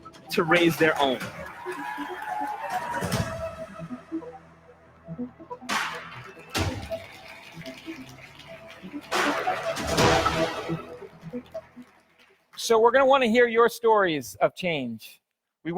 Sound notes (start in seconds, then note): 2.2 dramatic music; 7.3 audience applauds; 7.3 dramatic music